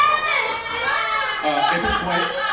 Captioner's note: cheering